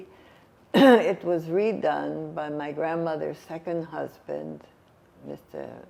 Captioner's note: coughing